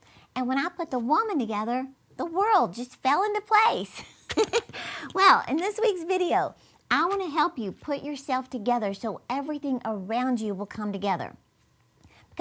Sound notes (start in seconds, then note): 3.9 laughing